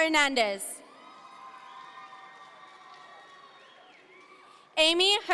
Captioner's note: audience members cheer